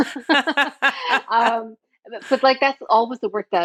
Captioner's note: both laughing